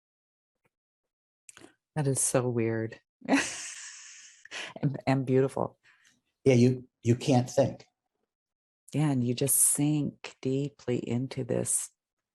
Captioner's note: laugh